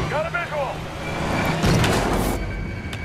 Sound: radio

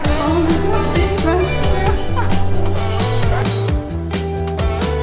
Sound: laugh

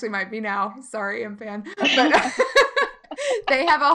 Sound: laughing

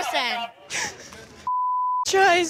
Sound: crying; beep

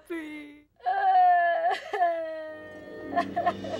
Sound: Veronica cries

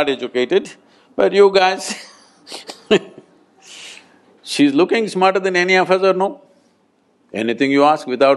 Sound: laughs

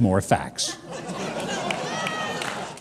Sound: audience laughing

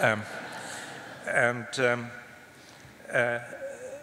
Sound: laughter

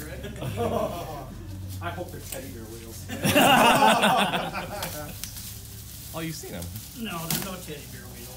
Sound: laughter

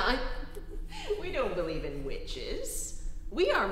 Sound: chuckling

